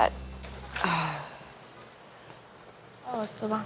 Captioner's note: woman sighing